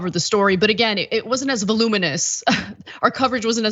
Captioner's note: laugh